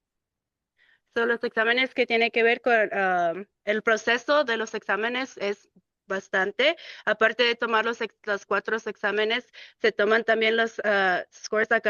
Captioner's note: speaking in Spanish